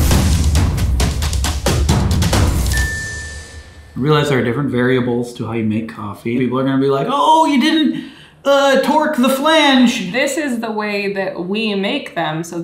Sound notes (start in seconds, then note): 0.0 lively music; 2.7 bell dings